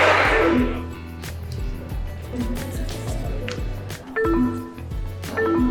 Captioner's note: upbeat music; electronics beep; upbeat music; electronics beep